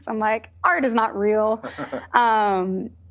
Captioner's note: chuckling